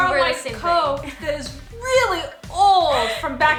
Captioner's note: laughs